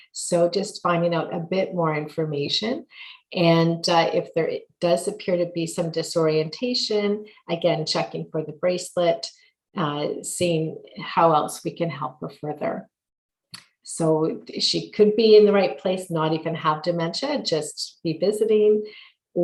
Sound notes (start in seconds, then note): none